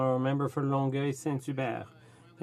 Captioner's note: speaking French